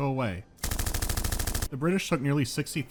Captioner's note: machine gun fire